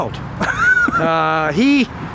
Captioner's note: laughing